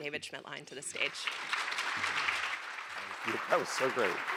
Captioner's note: applause